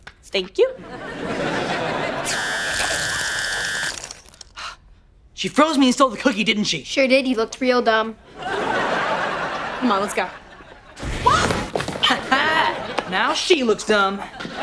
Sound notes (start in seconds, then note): 4.4 gasping